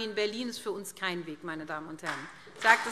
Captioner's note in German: Beifall SPD und Freie Demokraten